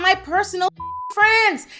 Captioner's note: beep